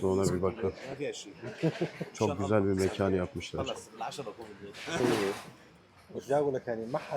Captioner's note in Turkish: kahkaha